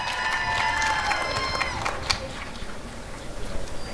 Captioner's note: applause and cheering